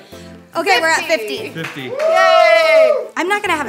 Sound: crew cheers

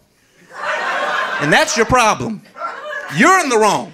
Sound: audience laughing

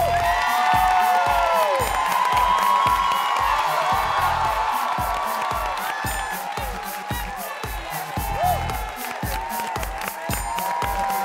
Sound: applause

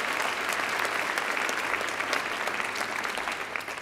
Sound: applause

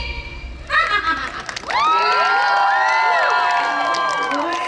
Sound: applause

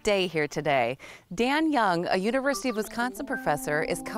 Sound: cell phone rings loudly

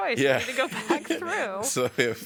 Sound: laughter

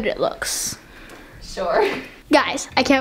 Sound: laughing

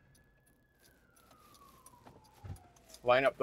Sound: police siren

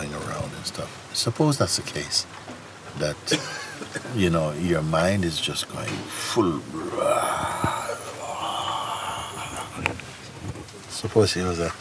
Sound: brüllt

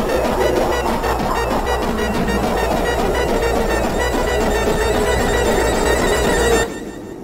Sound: garbled indescernable evil laughter

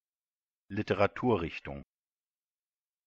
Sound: fast Pronunciation

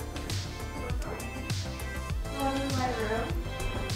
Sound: distant talking

